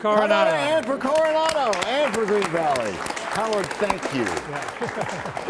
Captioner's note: applause